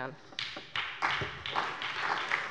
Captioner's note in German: Beifall bei der SPD